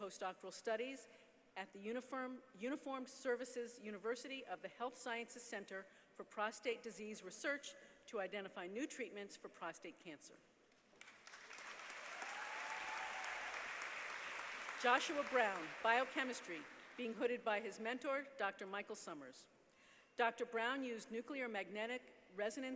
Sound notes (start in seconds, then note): 10.9 applause